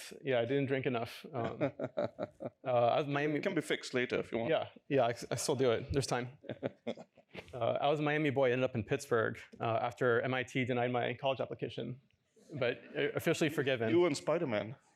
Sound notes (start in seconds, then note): 6.4 laughter